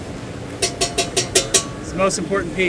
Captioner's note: tool tapping on hammer